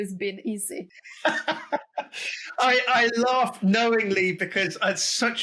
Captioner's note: laughs